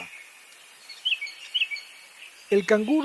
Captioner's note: cape barren sound